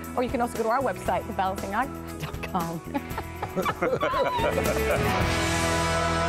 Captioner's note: laughter